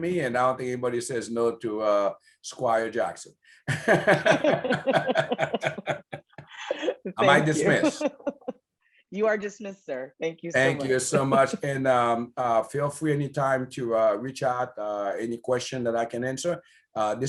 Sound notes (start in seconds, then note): 3.7 laughter